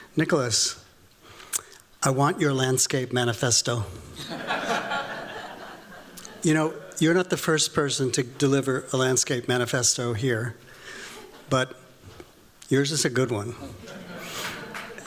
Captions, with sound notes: Nicholas, I want your landscape manifesto. [LAUGHTER] You're not the first person to deliver a landscape manifesto here, but yours is a good one.